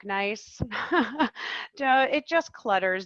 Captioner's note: laughing